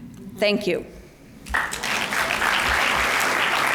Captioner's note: applause